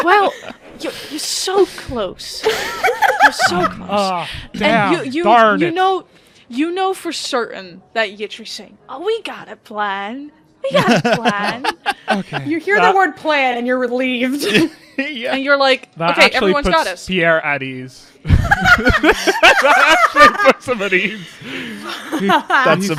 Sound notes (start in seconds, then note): 10.7 laughs; 20.8 laughs; 21.7 laughter; 22.7 laughing